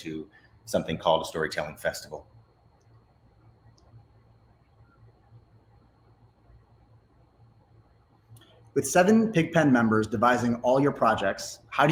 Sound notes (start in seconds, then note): none